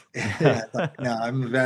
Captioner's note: laughing